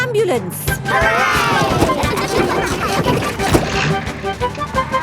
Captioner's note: giggling